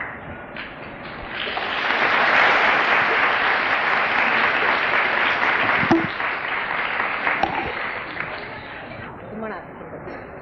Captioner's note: applause